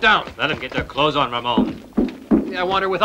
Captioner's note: banging